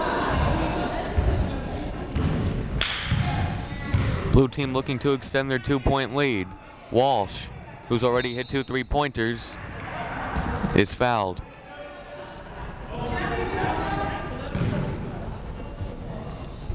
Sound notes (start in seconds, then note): 8.1 whistle blowing